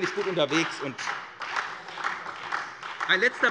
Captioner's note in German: Beifall SPD und vereinzelt Freie Demokraten